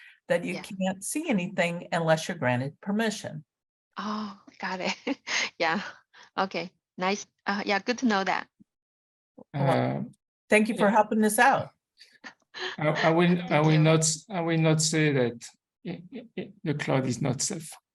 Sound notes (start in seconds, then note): 5.6 laughs